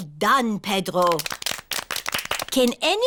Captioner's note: all clap